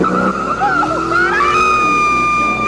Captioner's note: screaming